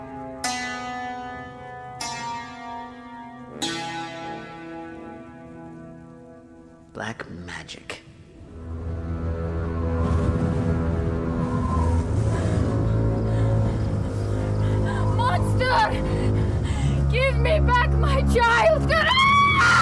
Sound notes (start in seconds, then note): 1.7 dramatic music; 9.7 eerie music; 12.7 wind blows